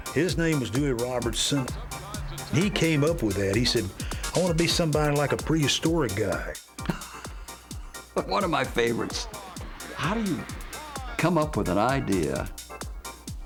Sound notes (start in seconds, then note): 6.8 laughs